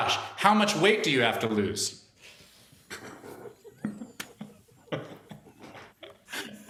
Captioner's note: laughter